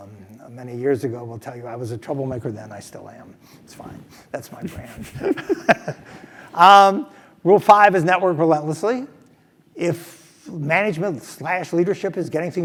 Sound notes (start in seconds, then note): 4.7 laugh